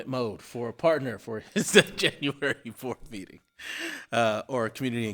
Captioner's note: laughing